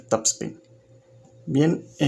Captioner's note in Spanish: Silencio